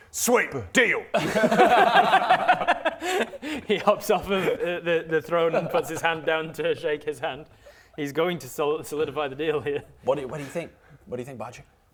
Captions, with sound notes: Sweet deal *"friendly" laughter* He hops off of the throne and puts his hand down to shake his hand he's going to solidify the deal here What do you, what do you think? What do you think Bodger?